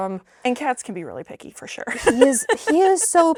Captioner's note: laughing